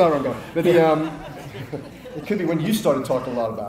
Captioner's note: audience laughs